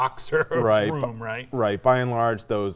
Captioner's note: chuckling